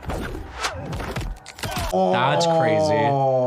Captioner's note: bones snap